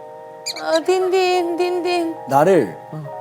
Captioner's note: Munch